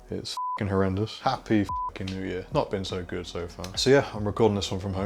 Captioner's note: beep